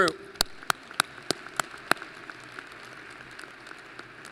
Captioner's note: applause